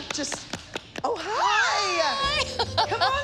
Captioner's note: laughing